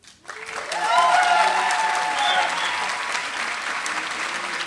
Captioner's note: applause